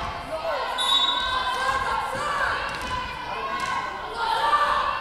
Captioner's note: whistle blowing